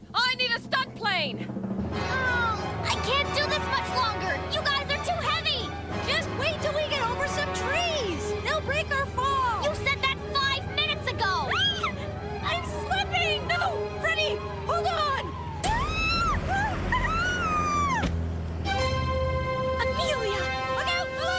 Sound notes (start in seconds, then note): 11.5 shriek; 15.6 screaming